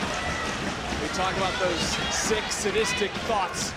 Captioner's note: audience cheering